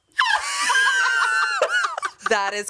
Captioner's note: everyone laughs